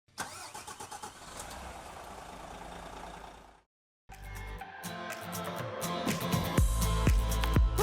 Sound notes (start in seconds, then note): 0.1 engine starting up; 4.1 upbeat music